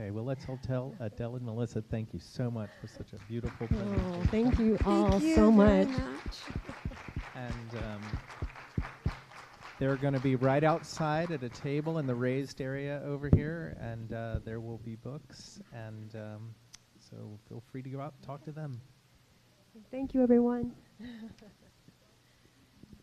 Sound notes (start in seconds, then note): 8.2 applause